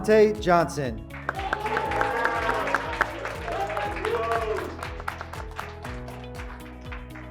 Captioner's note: graduates clapping; graduates cheering